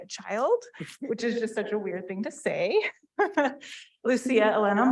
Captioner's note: chuckles